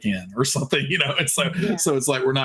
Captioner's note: giggling